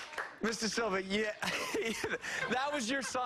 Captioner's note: cheers and applause